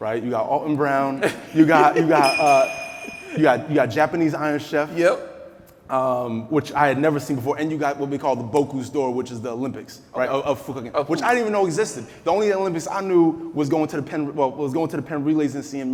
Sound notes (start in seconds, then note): 1.1 laughing; 2.1 metal clinking